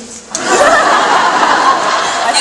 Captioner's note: audience laughs